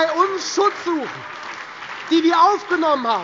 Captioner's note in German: Beifall Freie Demokraten, CDU, BÜNDNIS 90/DIE GRÜNEN, SPD und DIE LINKE